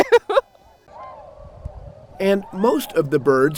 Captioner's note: person laughing